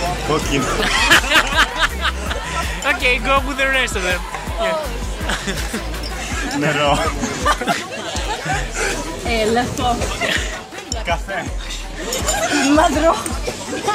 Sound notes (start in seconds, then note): 0.6 laughter; 6.0 speaks in Greek